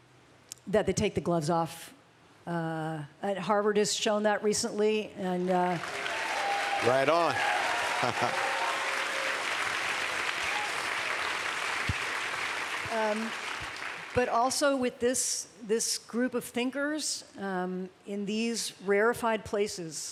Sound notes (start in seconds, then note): 7.6 applause